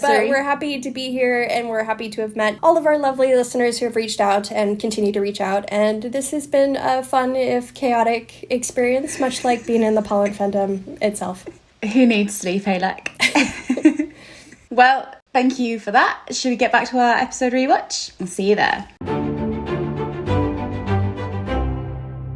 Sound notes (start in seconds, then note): 13.2 laughs; 19.0 upbeat music